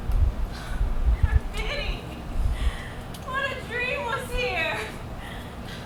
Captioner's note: sighs